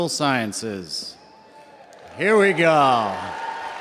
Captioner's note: audience cheering